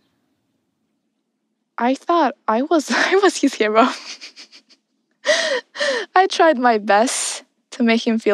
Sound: laughs

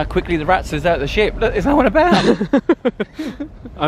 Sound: laughs

